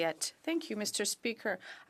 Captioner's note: speaking French